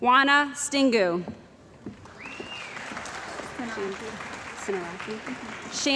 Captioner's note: cheering & Applause